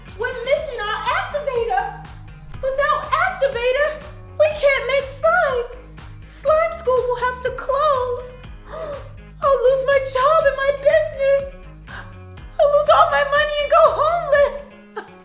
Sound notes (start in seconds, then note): 8.6 gasps; 11.7 gasps; 13.7 sobs